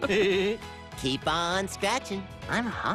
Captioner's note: both laugh